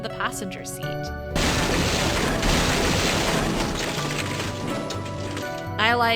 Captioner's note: crash!